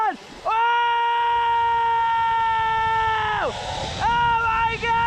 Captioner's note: yells; shouts